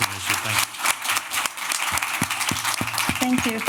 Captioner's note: applause